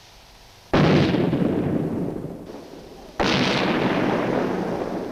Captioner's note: gunshots booming